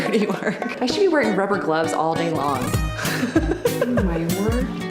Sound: laughs

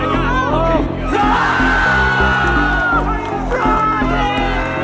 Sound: crowd cheers

